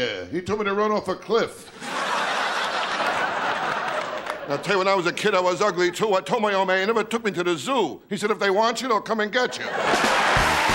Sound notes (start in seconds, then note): 1.7 laughing; 9.5 laughing